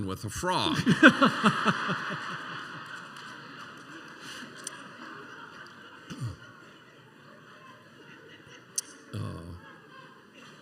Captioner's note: laughter